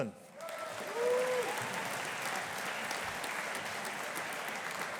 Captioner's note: audience applauding